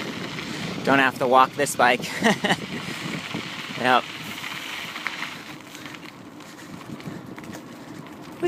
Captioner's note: motor noise